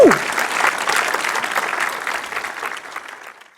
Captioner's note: audience applauding